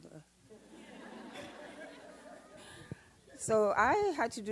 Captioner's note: audience laughs